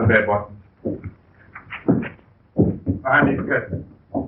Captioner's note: pounding